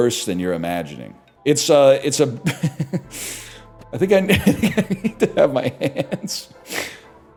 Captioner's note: cracks up; laughs